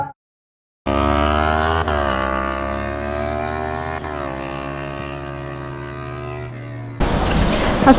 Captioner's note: motorbike engine